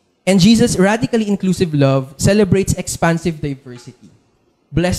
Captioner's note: none